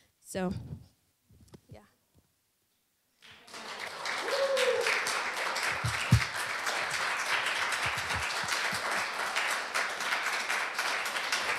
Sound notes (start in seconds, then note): 3.2 applause